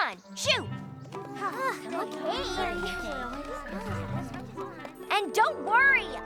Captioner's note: all grumbling